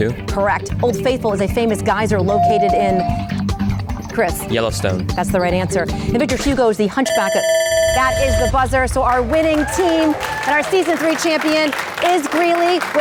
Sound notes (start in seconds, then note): 2.4 bell dings; 7.6 electric buzzing